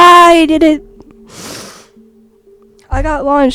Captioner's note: sniffle